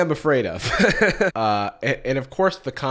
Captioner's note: laughs